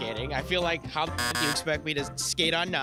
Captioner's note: beep